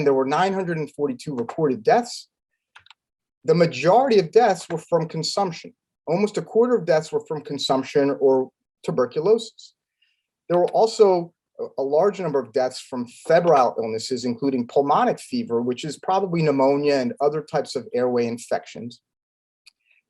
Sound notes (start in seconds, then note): 2.8 keyboard clanking